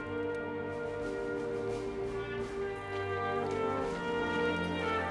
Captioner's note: none